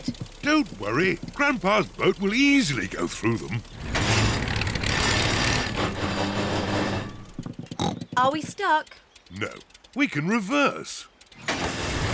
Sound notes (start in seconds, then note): 4.0 clunks and splutters; 7.7 snorts